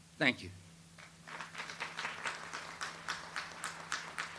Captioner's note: audience applauds